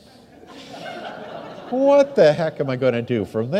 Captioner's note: audience laughs